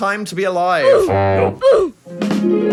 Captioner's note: voiceover grunting; soft mystical music